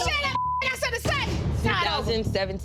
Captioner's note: beep